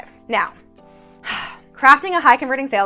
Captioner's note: sighing